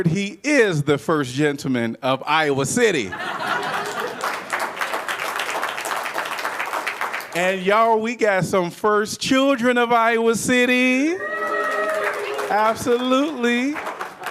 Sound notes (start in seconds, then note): 3.0 laughter